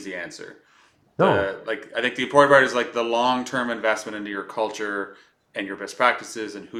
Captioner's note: laughs